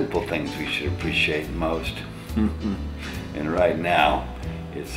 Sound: laughs

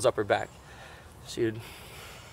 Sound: sighs

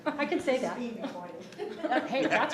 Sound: speaking distantly

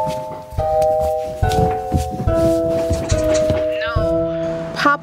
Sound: footsteps

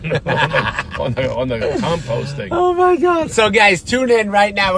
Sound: laughs

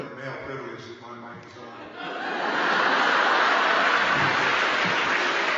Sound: laughter

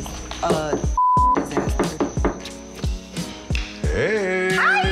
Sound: door knocking

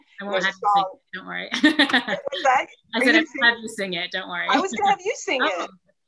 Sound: laughs

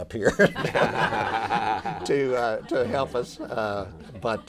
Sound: laughter

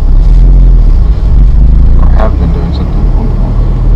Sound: car revving

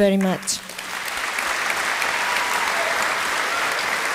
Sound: applause

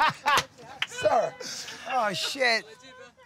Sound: laughing

